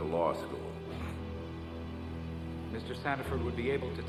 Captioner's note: defendant chuckles